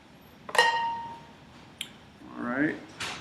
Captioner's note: metal dings